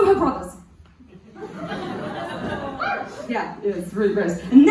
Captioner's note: and cheering apparently?! Don't cheer that. WTF